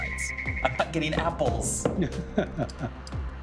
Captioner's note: پێکەنین